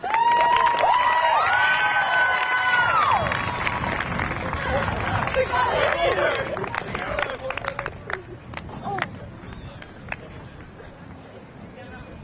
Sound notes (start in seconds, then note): 0.0 crowd cheering; 0.0 crowd applauding; 5.7 graduates chanting